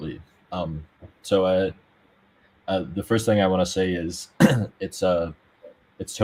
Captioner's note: clears throat